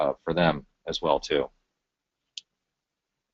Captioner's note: pause